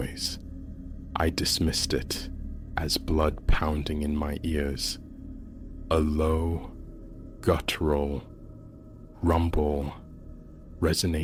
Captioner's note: rumble